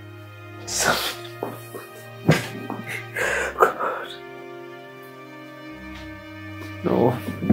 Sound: crying

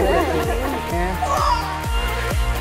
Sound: yelling

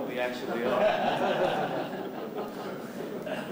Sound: laughter

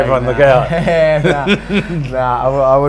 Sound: laughs

